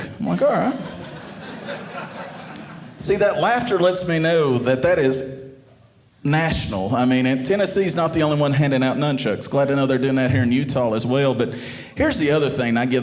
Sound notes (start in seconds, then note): 0.6 audience laughing